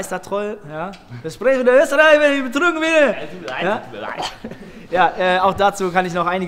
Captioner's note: bad wanna-be Austrian accent